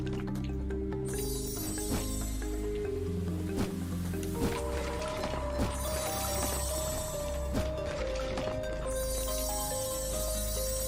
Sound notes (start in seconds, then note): none